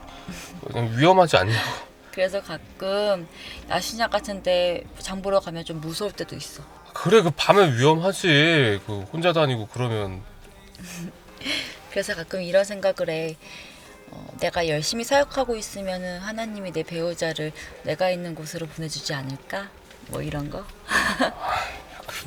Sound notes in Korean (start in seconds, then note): 13.4 헉 소리; 20.9 웃음